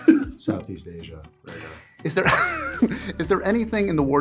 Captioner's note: ding